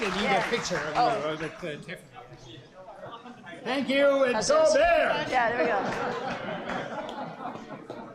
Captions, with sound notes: - I think they need a picture of you. Thank you and go Bears! (crowd laughter)